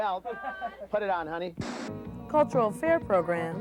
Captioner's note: static noise